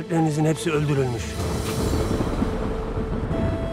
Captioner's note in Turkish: Gök gürültüsü efekti